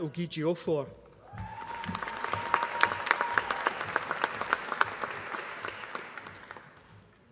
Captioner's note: applause